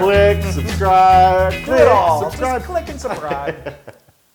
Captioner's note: laugh